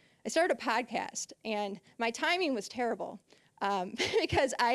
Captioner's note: laughing